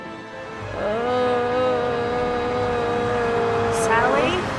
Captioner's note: eerie music plays; Sally groans